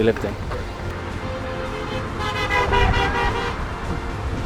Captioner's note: cars beeping